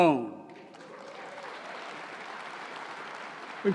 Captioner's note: applause